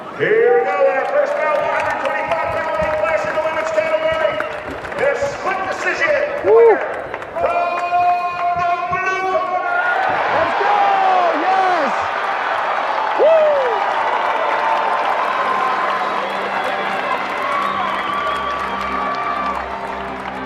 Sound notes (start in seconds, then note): 10.5 audience cheering; 15.8 soft music